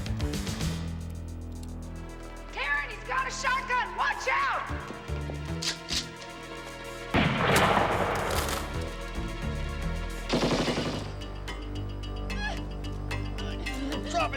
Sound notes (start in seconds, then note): 7.1 gun firing; 7.2 gun cocking; 12.6 girl squealing